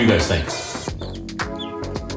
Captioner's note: chirping